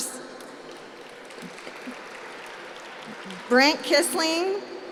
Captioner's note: applause